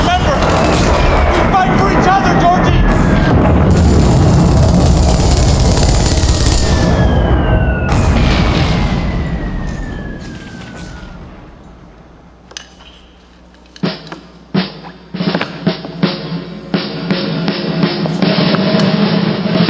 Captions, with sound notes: Remember, we fight for each other, Georgie. [explosion booming continues] [machine gun rattling]